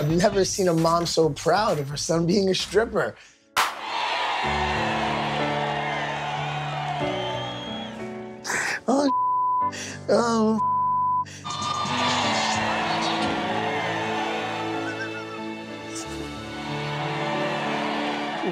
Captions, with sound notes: - I've never seen a mom so proud of her son being a stripper. (gentle piano music) (laughing) oh, (beep). Oh, (beep). (audience cheering) - You all right? (laughing) (gentle piano music continues)